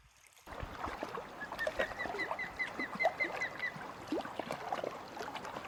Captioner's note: osprey calls